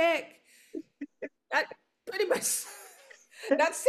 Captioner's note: laughs